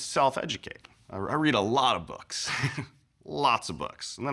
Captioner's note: chuckles